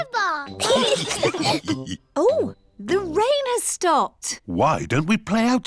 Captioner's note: laughter